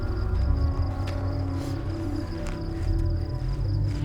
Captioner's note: breathing heavily